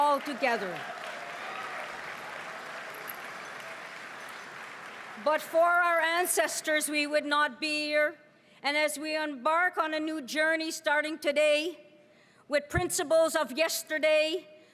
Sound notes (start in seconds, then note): 5.5 applause